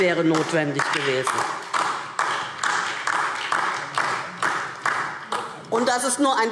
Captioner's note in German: Beifall DIE LINKE